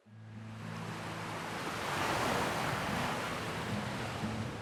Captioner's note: waves crashing